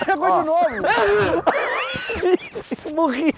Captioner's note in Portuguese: faz som de enjoo